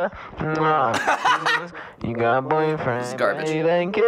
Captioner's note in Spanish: ríe